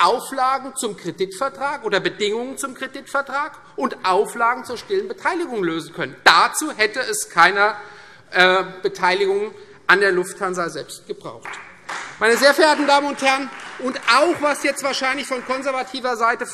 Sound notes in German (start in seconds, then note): 11.4 Beifall Freie Demokraten